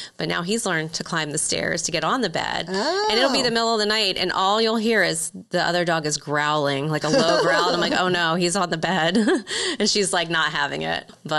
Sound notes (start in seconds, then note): 7.0 laughing